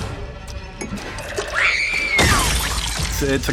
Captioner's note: screams